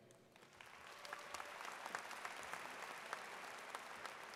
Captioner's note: audience claps